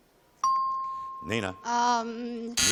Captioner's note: chimes